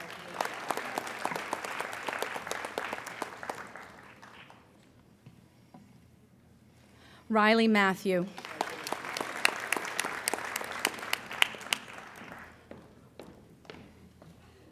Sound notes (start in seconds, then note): 0.0 applauding; 8.2 applauding